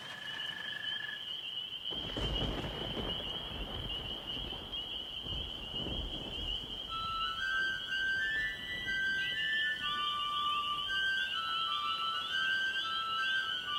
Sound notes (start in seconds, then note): 0.1 crickets chirping. Music begins